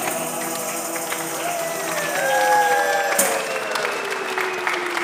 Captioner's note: audience applauding